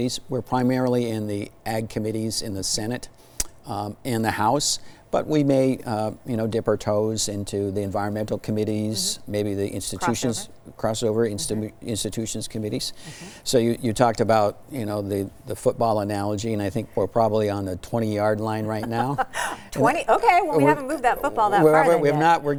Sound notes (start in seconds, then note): 18.7 laughter